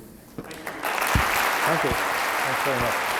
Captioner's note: applause